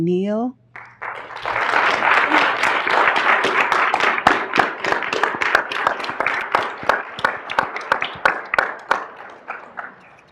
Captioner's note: applause